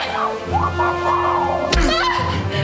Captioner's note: muffled GET THE KEY